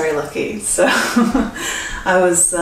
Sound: laughs

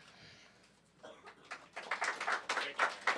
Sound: applause

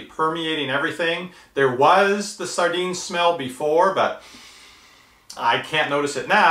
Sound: sniffs

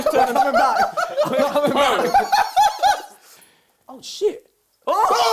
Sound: both laughing

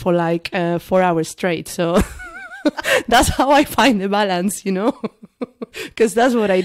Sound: laughs

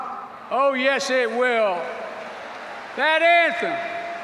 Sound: applause

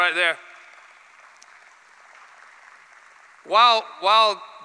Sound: applause

